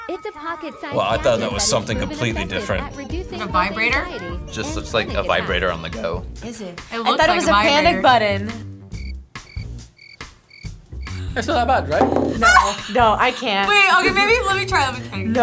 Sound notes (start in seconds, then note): 8.9 crickets chirping